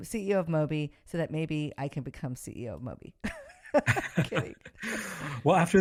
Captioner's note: laughs